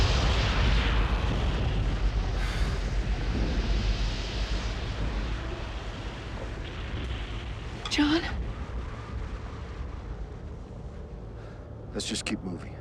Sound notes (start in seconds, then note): 2.4 sighs